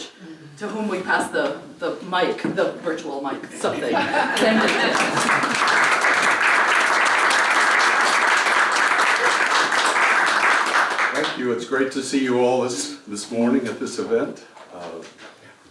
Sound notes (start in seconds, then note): 3.6 laugh; 4.3 applause